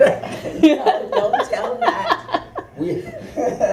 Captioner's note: laughter